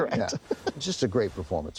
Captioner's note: laughs